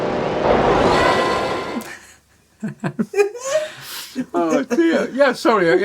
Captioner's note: laughter